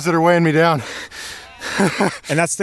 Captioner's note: laughing